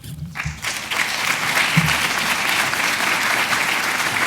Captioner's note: audience applauds